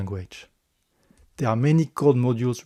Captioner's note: breathe